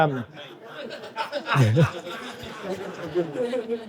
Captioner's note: audience laughing